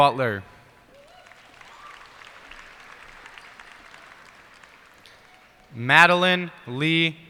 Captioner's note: cheers and applause